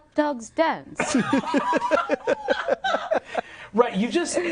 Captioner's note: others laughing